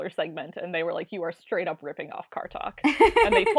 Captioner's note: laughs